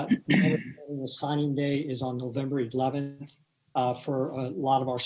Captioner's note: distorted sound